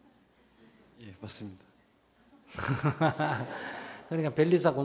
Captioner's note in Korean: 웃음; 청중 웃음